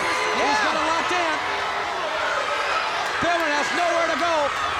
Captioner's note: crowd clamoring